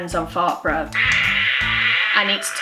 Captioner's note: farts